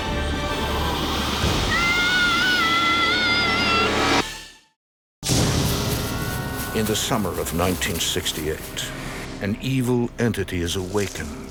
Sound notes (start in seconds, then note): 1.7 Timmy screams; 5.5 ominous music